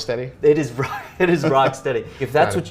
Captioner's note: laughing